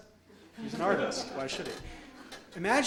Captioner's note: audience laughs